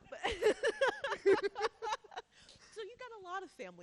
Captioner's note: laughing